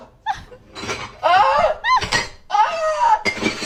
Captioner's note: person yelping; glasses clanking